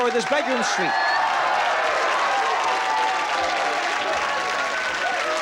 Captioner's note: applause